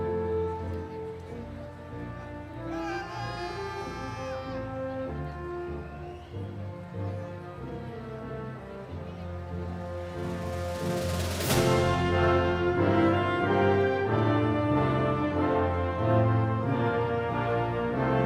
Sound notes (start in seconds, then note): 2.6 audience members exclaiming; 11.6 triumphant music continues